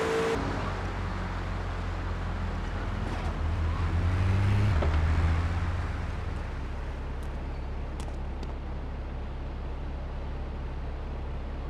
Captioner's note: plane engine roaring